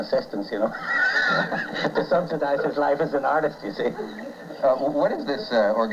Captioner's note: laughs